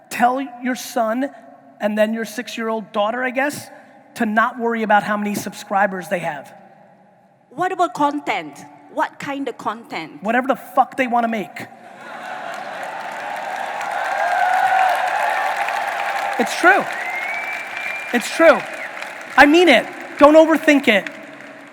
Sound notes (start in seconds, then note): 11.9 audience laughing and applauding